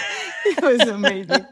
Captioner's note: laughs